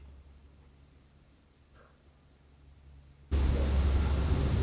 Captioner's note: wind blowing